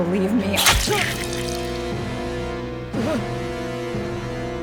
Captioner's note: Mara grunts; knife plunges; blood squirts; Mara shudders